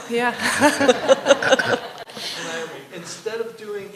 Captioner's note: laughter